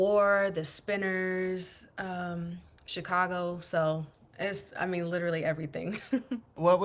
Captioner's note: laughter